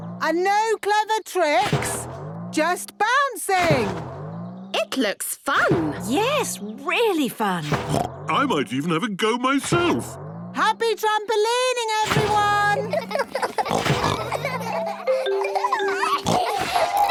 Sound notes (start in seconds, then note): 7.7 snorts; 12.7 all laughing; 15.6 giggles, snorts